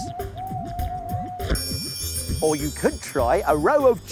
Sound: hooting

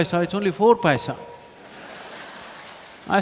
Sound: applause

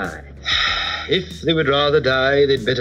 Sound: sighs

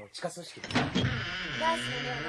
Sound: SFX: door creaks to closing

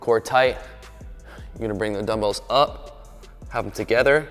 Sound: sighs

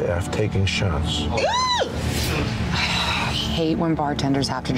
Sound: woman screams

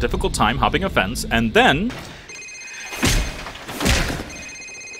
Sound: phone ringing

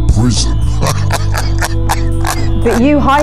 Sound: laughter

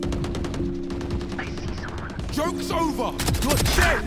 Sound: gunfire

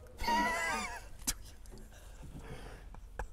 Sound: laughter

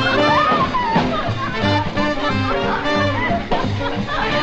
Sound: laughing

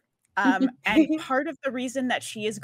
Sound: chuckling

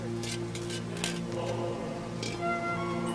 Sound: metal scraping

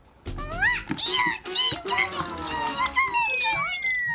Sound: both squealing

